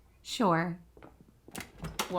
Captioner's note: door opens, night ambience